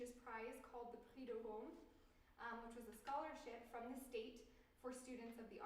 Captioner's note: french